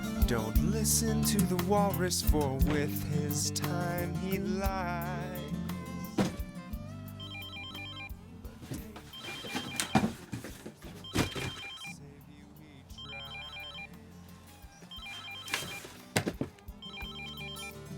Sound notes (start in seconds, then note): 8.6 phone ringing; 14.8 phone ringing